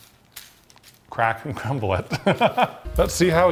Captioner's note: laughs